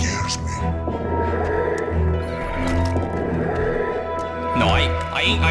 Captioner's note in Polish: Oddychanie przez maskę